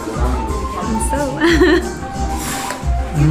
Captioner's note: laughs